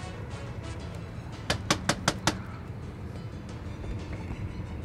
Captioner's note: door knocking